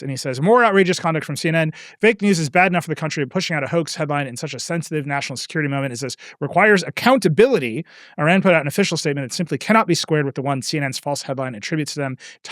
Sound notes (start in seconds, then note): none